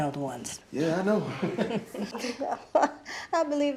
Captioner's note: all chuckling